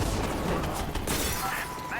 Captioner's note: metal clangs